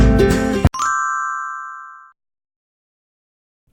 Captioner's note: chiming